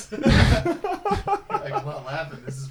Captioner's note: laughing